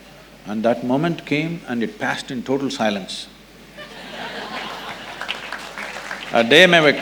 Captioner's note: laughter